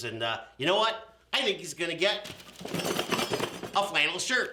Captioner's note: box jingles